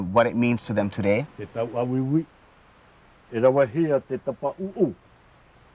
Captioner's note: speaking Tahitian language